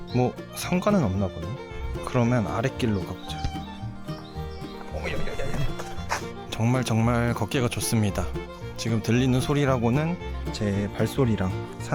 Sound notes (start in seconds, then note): 4.8 sound of knee cartilage wearing down